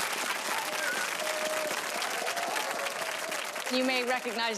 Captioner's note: audience applause